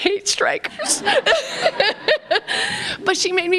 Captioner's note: laughter